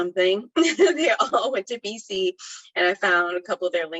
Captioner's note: laughs